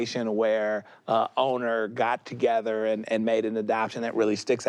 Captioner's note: none